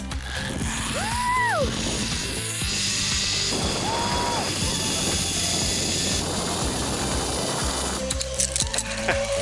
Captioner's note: shreaking as she's ziplining through the jungle